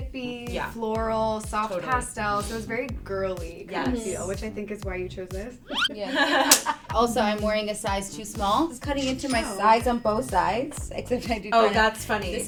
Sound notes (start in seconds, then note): 5.7 whistle slides